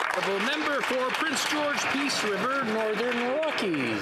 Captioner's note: some Applause